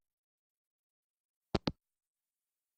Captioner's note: hangup